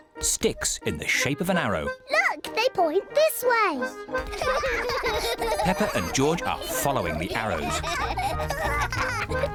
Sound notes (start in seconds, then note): 4.2 both laughing